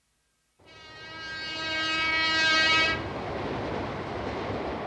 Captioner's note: train whistle